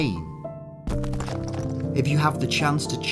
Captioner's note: stone crumbling